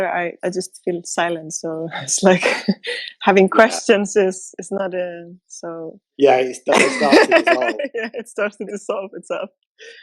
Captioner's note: laughter